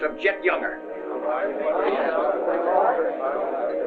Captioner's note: chatter